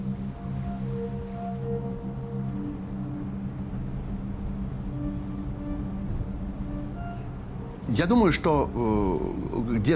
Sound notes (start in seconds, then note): 1.6 speaking Russian